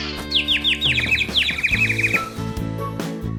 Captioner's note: chirps